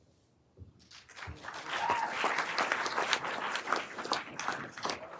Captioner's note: everyone applauding